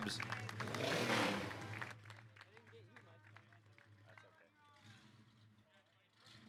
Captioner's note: car revving; audience applauding